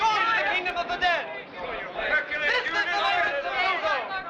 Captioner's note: all shouting